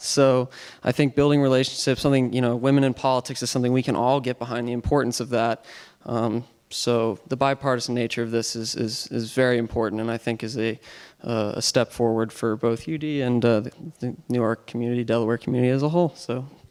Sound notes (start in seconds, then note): none